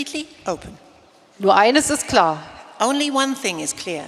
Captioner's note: speaking in German